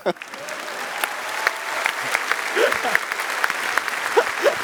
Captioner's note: applause